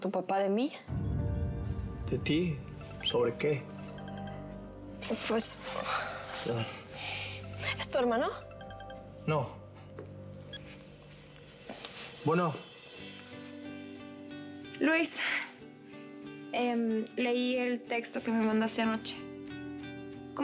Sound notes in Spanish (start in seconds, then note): 2.8 suena celular